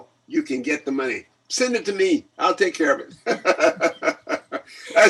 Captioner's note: laughs